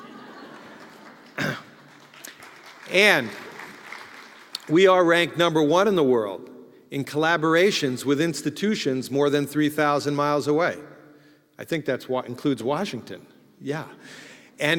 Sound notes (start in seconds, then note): 0.0 applause; 1.0 laugh